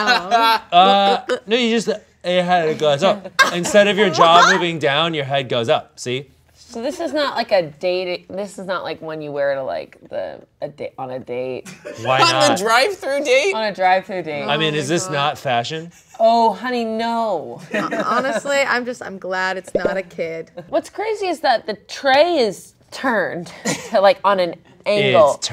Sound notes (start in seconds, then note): 17.7 laughs